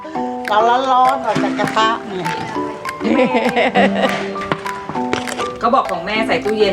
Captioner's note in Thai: เสียงหัวเราะ